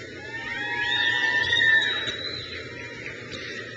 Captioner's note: crowd cheers